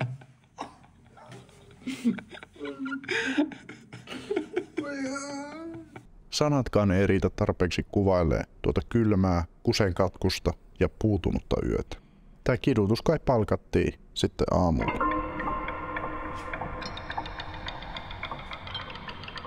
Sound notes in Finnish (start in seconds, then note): 4.8 kärsivä äännähdys